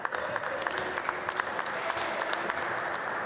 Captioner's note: applause